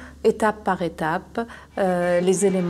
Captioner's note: horns honking